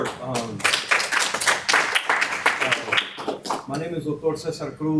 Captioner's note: audience applauding